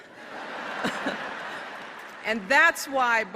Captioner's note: laughter